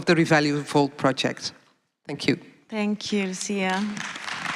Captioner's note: applause